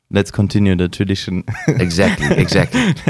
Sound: laughs

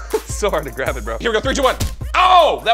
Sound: thud

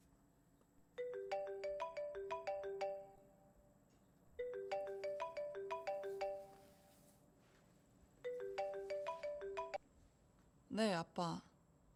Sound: cell phone ringtone

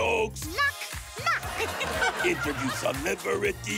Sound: audience laughing

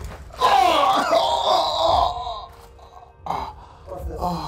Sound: screaming in pain

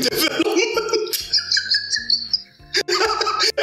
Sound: laughs

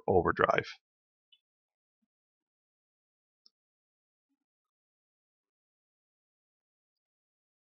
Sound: silence

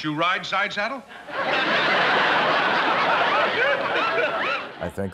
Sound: audience laughing

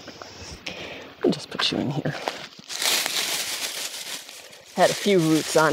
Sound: shrubbery crunching

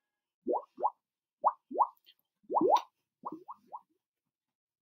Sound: bubble Noises

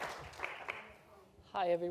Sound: applause

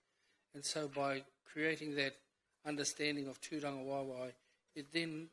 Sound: foreign language; foreign language

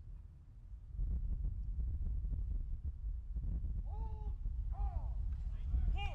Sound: soldiers shouting commands

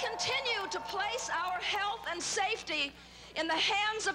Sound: cheers and Applause

